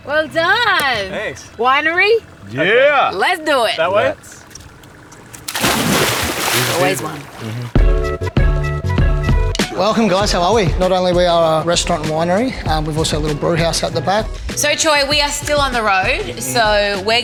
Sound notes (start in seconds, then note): 4.4 water splashing; 8.2 upbeat music